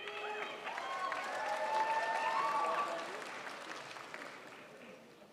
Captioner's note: crowd applauds